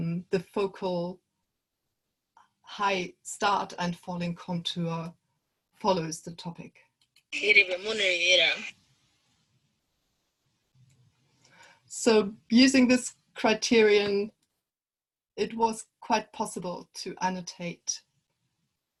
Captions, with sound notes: The focal High start and falling contour follows, the topic. (language other than English being spoken) So using this criterion It was quite possible to annotate